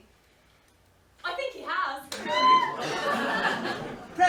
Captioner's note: squeals